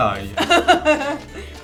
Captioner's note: laughs